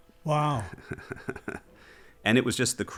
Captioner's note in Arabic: يضحك